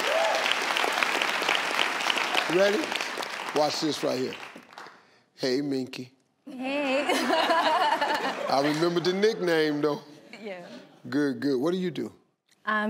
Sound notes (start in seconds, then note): 0.0 audience clapping; 6.7 laughs